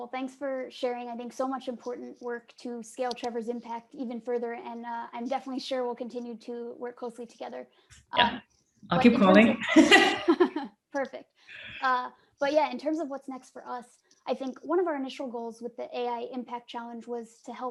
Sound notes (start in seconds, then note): 9.1 laughing